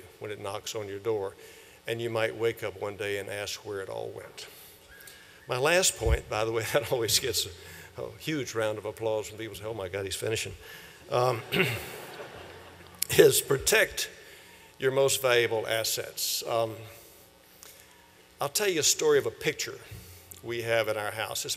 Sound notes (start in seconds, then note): 11.2 laughter